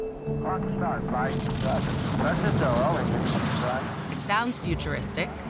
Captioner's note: men speaking on radios